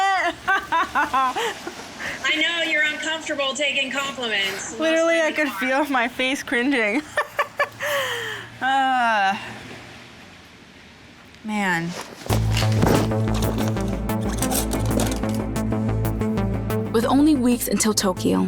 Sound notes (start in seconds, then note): 0.0 laughing; 6.6 laughing; 13.0 rhythmic music